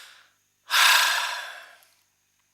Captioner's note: sigh